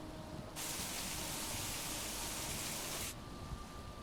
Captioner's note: rain pelting